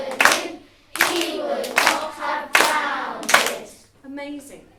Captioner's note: all rhythmically and clapping